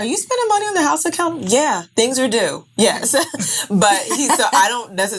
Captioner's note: laughing